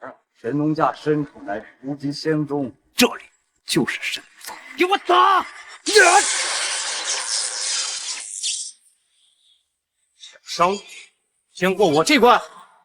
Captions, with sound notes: Deep in the Shennongjia forests, lies the Wuji Immortal Sect. [Yells] Get them! You'll have to go through me first if you want to hurt him!